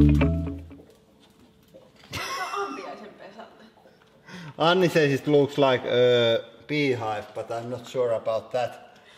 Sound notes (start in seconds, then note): 2.1 giggles; 2.6 speaking in Finnish